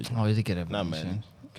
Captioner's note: speaking In Foreign Language